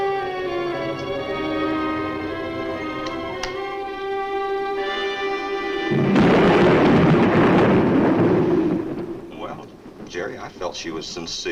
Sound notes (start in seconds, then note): 0.0 dark orchestral music continues; 5.7 thunder claps